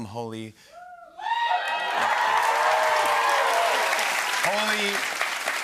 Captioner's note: cheers and applause